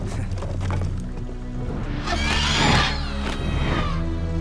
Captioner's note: birds squawk